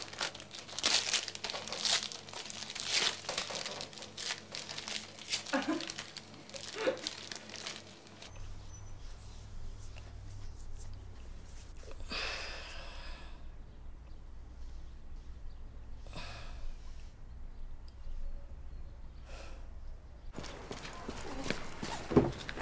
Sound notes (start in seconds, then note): 0.0 sound of wrapping paper tearing continues; 5.4 laughs; 11.8 Sam exhales